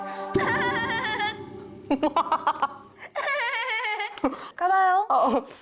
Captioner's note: dreamlike sound effect